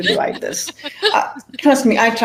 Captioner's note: laughs